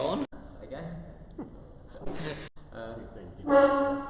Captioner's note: chuckles